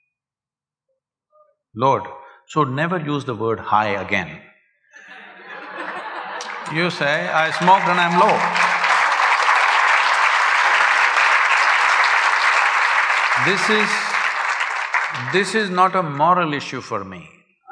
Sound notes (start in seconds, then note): 5.0 laughter; 11.1 applause